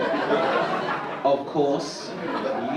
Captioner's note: audience laugh